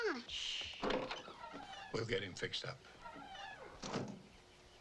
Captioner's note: Alicia shushing; door creaks; door thuds